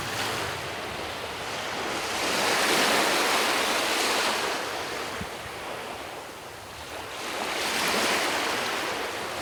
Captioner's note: waves lapping on shore